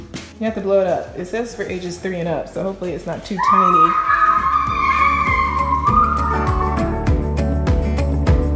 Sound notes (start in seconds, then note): 3.4 screaming; 5.9 upbeat music